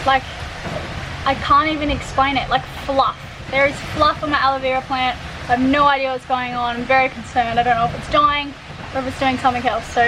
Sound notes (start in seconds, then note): none